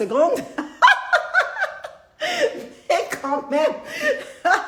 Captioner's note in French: Rires